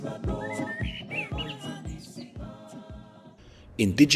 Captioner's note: chanting ends